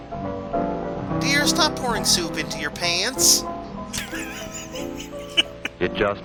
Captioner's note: wheezing laugh